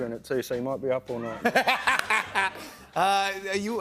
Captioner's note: laughs